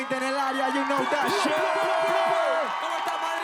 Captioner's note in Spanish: habla en inglés